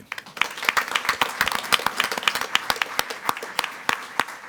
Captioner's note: all applauding